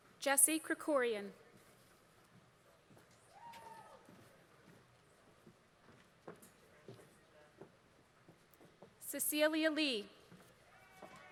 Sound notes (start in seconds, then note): 1.8 applause